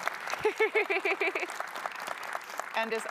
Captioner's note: laughing